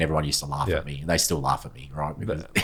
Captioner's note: laughs